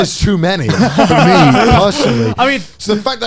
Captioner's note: laughing